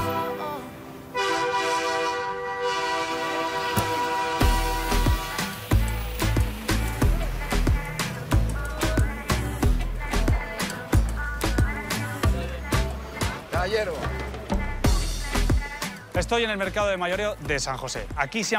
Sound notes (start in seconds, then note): 1.1 train siren